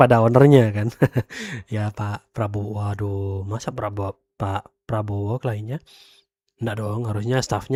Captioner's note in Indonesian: tertawa